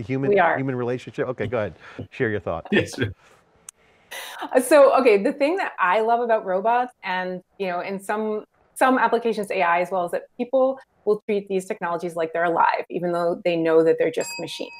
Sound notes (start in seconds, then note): 0.0 laughing; 4.6 laughing